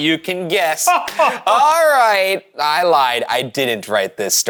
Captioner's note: laughs